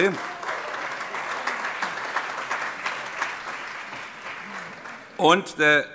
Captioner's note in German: Allgemeiner Beifall